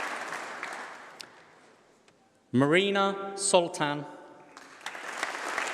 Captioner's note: applause